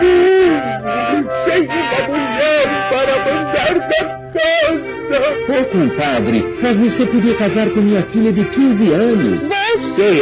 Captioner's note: laughter with sacred music in the background